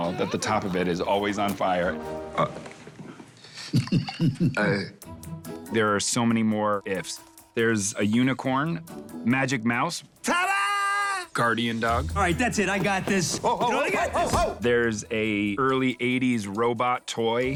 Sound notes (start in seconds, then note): 2.1 gagging; 3.5 chuckling; 3.6 gagging